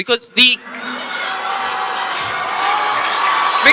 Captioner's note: audience applause